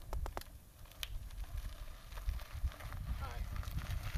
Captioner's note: skid noises